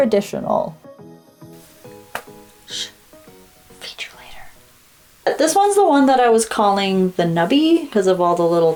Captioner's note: smack